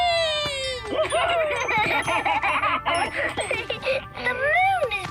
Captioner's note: laughing